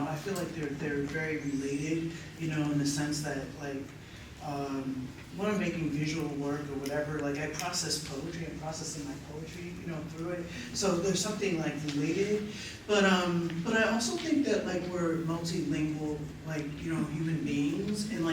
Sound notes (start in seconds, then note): none